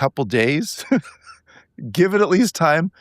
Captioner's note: laughing